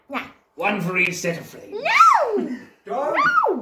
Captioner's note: voice break